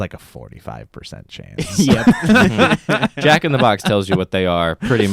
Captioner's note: laughs; chuckles